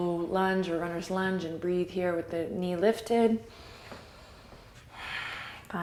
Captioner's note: deep breath